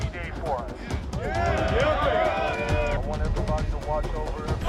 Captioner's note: crowd cheering